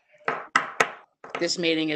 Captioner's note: gavel pounds